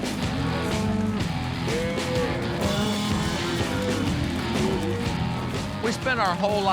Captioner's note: cows moo